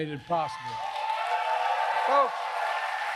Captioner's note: applause